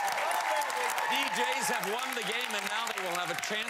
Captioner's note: cheers and applause